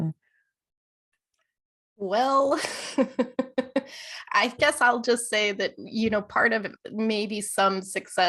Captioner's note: laughter